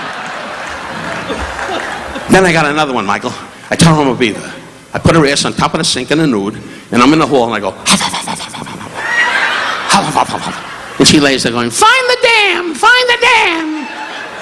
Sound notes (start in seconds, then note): 0.0 audience applauding; 7.9 audience laughing; 8.0 Don imitating beaver huffing